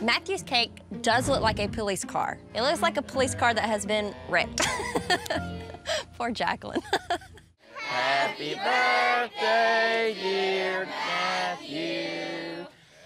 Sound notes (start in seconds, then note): 4.6 laughs